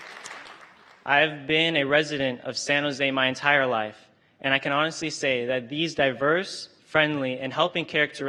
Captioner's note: applause